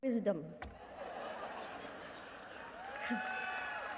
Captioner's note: laughing